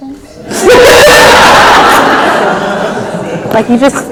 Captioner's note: laughs